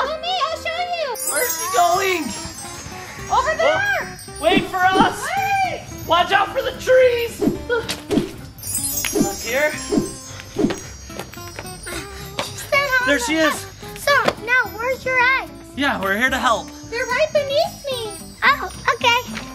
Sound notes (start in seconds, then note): 2.6 upbeat music playing; 8.4 fairy dust noises